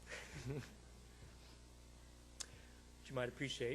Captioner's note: laughing